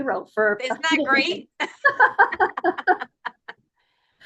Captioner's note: laughs